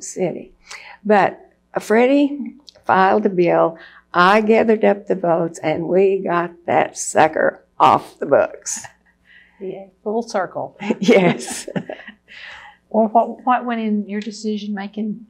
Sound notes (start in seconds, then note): 10.8 laughter